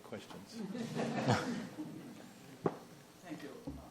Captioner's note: audience laughs